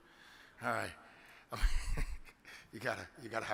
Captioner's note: laughs